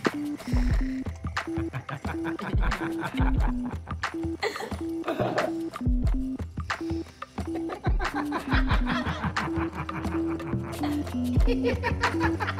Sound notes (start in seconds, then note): 1.4 both Laugh